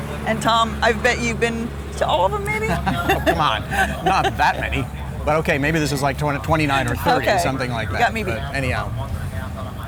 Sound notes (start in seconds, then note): 2.4 laughs